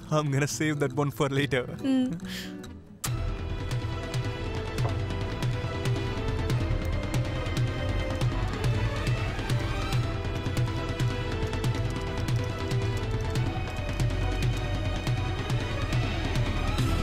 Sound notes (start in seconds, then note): 2.9 kisses; 11.5 typing